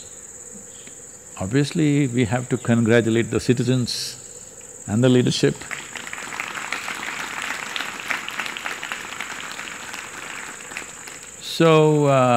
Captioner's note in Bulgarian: Аплодисменти